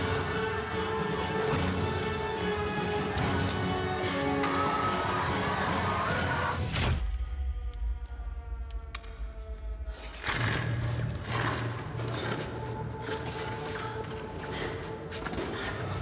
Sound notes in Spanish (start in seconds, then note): 3.6 griterío; 6.5 ruido al cortar luz